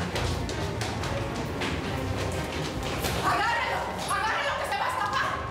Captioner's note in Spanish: Ruidos al correr